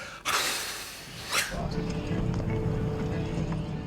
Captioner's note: sighing heavily